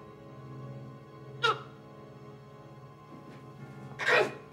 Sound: Anna sobs

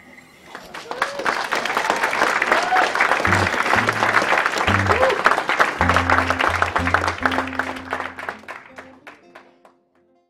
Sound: applause

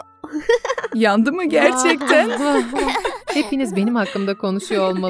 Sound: laughing

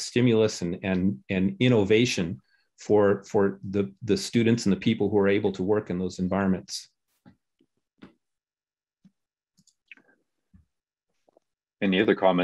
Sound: silence

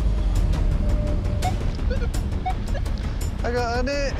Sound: metal detector beeping

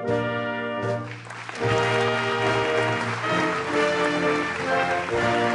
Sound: applauding

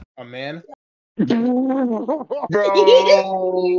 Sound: laughing

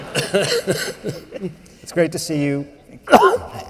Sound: laughter

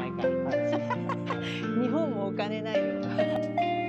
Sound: laughs

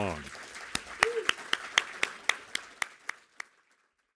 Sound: crowd clapping

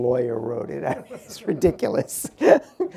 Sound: laughs

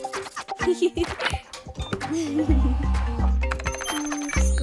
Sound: humming; giggling

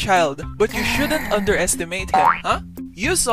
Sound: grrr…

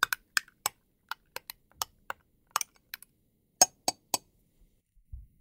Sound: spoon stirs; spoon taps

